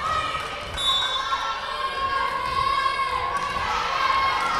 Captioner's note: whistle blowing